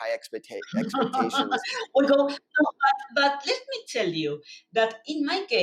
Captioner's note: laughs